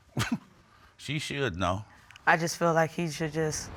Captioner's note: chuckles